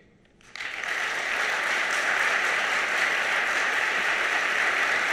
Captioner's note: audience applauding